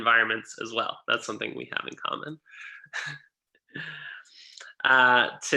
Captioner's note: laughing